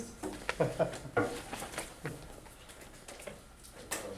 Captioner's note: laughs